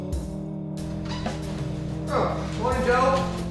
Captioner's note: door creaking and sticky footsteps